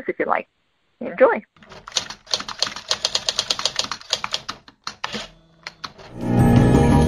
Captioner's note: typewriter sfx